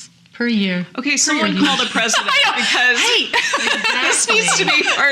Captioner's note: laughing